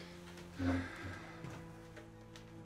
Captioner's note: Graham sighs